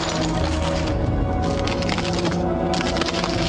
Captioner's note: cracking ice